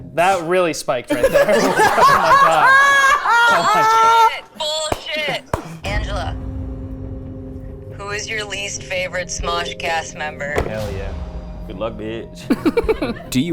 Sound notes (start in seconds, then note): 1.1 everyone laughing; 4.8 clapping; 6.6 tense music